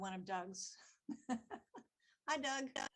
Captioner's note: laughing